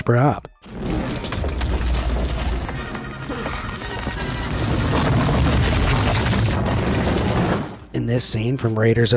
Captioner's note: boulder rumbles